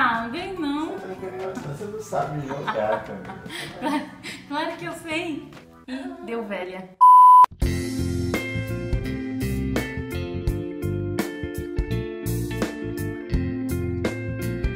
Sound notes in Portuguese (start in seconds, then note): 2.2 risos; 6.0 risos